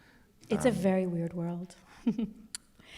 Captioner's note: laughs